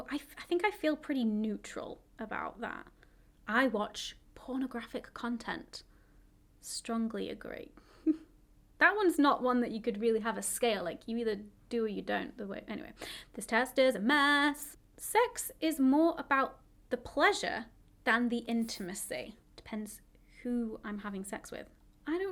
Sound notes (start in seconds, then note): 8.0 chuckles